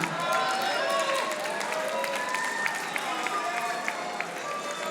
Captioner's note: audience applauding